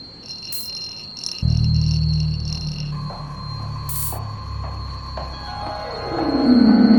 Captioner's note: feet thumping; tense music; instrumental music; tense music